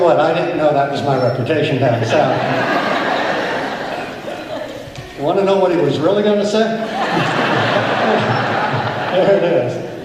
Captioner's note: laughter